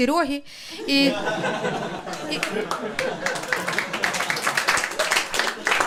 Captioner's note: audience applause